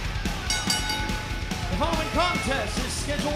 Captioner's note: bell ringing